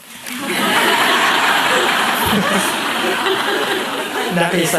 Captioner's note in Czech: smích